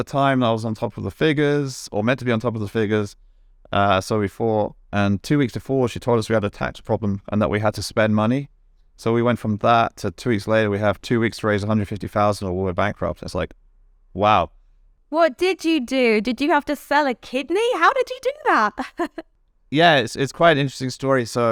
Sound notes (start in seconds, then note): 18.4 laughs